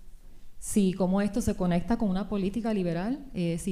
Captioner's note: speaking spanish